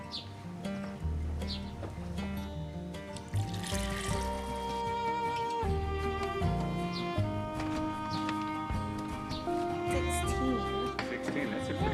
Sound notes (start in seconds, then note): 2.5 birds chirping; 4.7 water pouring; 9.3 birds chirping